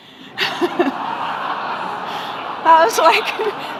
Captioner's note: audience laughing